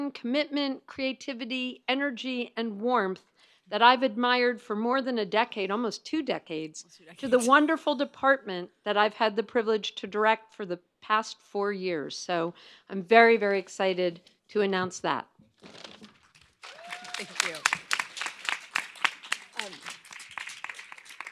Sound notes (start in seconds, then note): 16.4 audience applauds